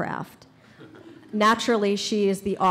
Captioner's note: audience laughs